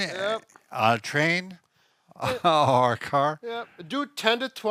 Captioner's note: laughs